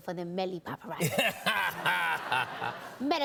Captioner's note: laughter